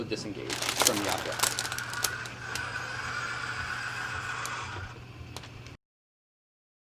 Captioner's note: machine whirs